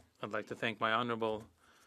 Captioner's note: speaking French